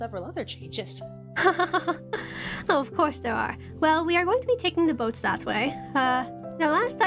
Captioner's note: laughs